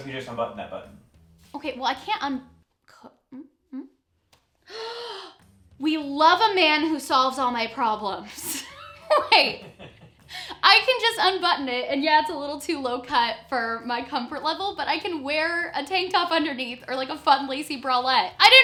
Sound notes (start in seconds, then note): 8.5 laughing